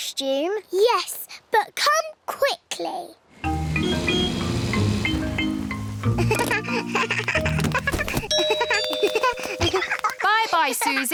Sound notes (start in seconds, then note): 3.5 toots horn; 6.1 giggles; 8.3 rings doorbell